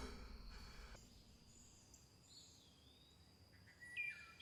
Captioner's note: birds chirping